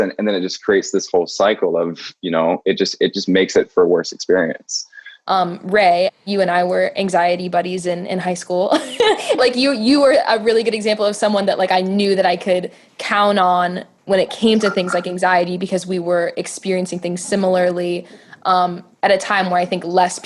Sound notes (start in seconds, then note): 8.8 laughs